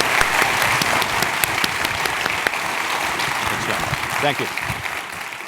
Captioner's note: applause